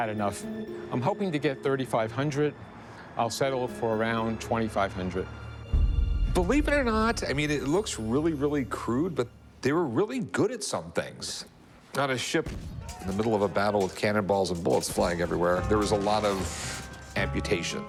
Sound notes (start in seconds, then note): none